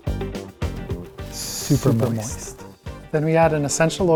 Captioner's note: upbeat music; echoing